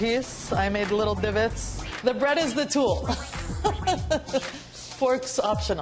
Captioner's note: laughs